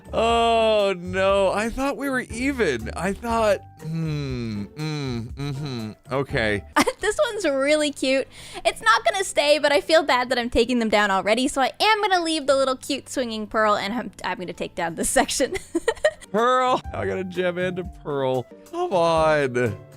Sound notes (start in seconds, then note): 15.5 giggles